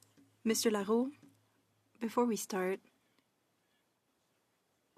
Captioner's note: speaking French